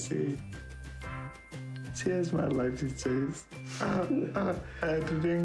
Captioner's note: chuckling